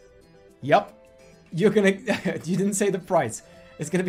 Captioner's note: chuckles